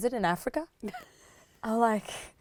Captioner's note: laughs